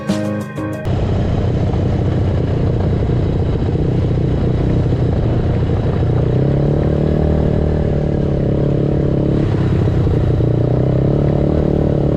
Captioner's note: engine sounds from ATV